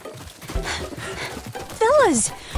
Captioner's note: all panting